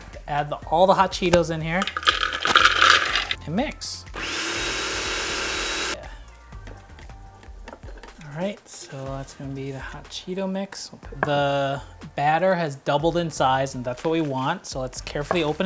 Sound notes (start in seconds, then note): 0.0 lid snapping closed; 1.0 cheetos hitting bowl; 4.1 blender whirring